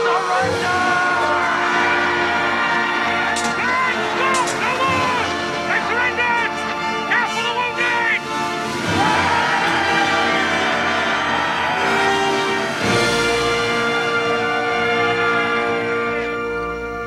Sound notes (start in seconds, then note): 9.6 Aplausos